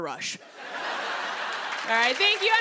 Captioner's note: laughter